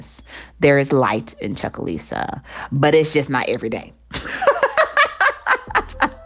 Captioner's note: laughter